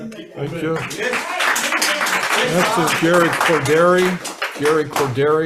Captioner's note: audience applauds